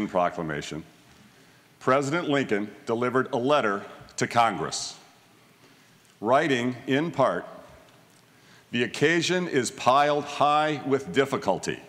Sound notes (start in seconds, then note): none